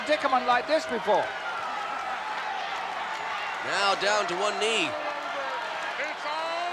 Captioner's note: applause